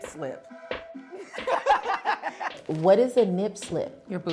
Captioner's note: laughing